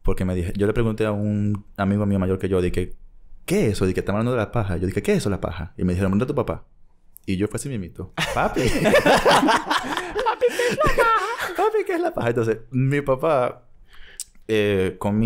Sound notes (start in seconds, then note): 8.2 laughs; 9.8 high voice